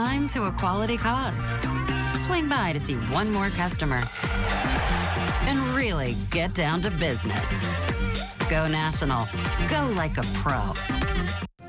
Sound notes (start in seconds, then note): 4.2 audience cheering